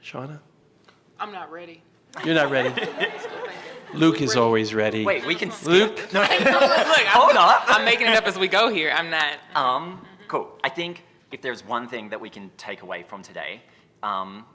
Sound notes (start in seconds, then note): 2.2 laughter; 4.9 inaudible chatter and laughter